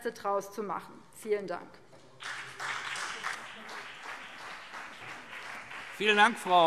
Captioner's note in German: Beifall BÜNDNIS 90/DIE GRÜNEN und vereinzelt CDU